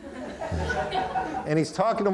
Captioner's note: audience laughing